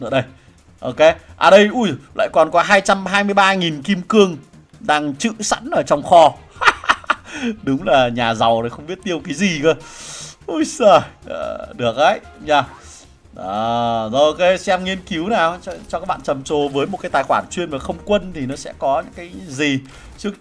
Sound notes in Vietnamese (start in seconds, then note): 6.5 tiếng cười